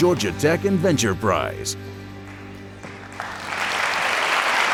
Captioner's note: cheers and applause